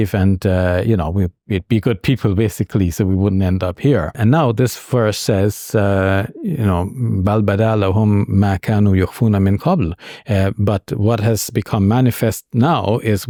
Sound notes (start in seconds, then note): 6.7 speaks in foreign language